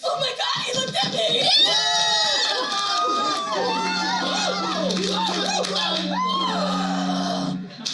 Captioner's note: cheering